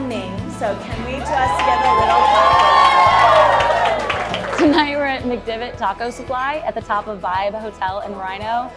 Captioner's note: cheering